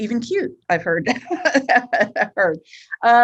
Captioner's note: laughs